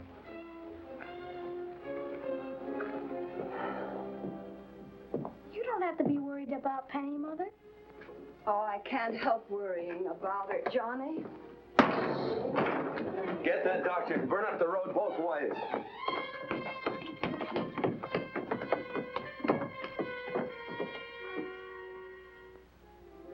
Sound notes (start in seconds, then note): 0.8 ominous music; 11.8 door slams open; 15.9 footsteps scurrying up stairs